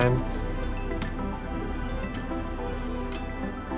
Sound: clock ticks

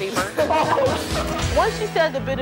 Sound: group laughs

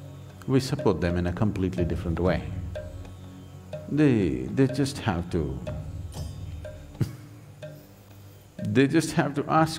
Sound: laughs

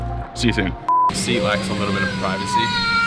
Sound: beeping

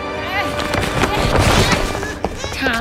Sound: both grunting

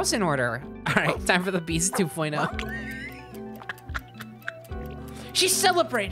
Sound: cackling

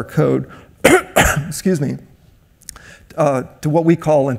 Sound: coughs

